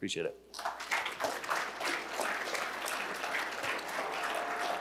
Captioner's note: applause